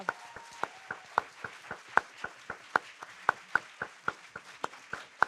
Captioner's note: audience cheering and applauding